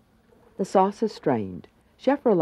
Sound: voiceover

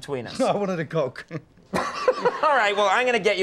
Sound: Conan laughing

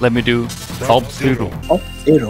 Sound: in a lisping voice

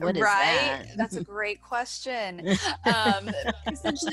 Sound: laughs

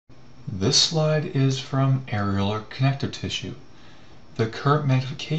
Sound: voiceover

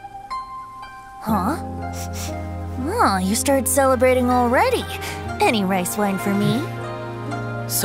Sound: sniff

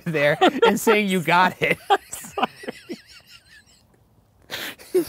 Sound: laughing

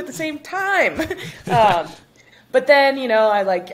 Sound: chuckles

